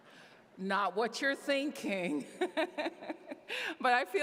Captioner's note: chuckles